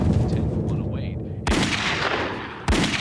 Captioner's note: gun shots